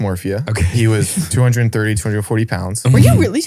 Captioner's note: laughs